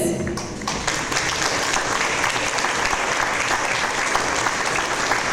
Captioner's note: audience applause